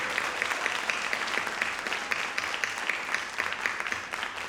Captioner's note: audience applauding